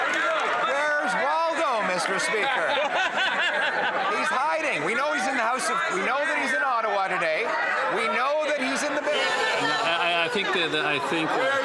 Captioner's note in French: applaudissements